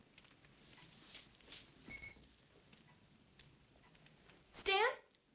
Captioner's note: watch Beeps